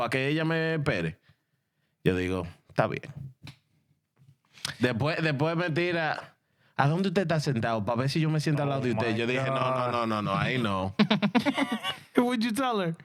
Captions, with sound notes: Yo, there you go. (Speaking In Foreign Language) No, no, no, no, I know. (Laughing) Who would you tell her?